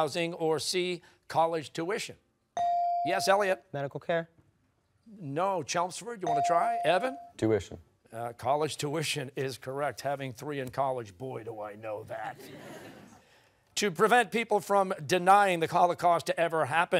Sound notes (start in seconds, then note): 12.2 laughter